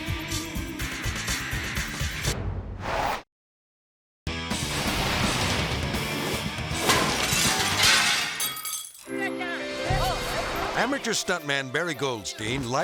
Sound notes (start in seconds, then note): 0.1 energetic rock music; 4.3 intense rock music; 4.5 logo swooshing; 6.7 glass cracks and clatters